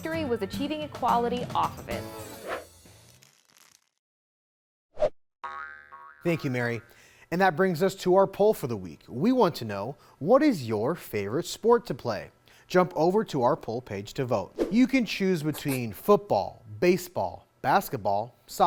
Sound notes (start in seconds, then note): 2.4 graphics whooshing; 5.4 graphics boinging